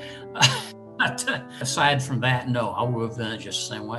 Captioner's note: chuckles